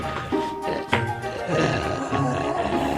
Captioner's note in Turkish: Zombi hırlar